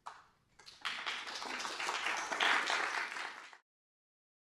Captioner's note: applause